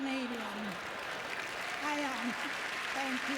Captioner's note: applause